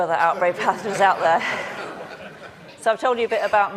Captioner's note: audience laughing